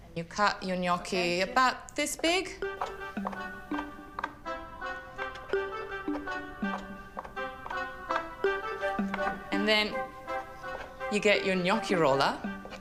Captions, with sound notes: You cut your gnocchi about this big. (lively music) (knife clacking) And then, you get your gnocchi roller,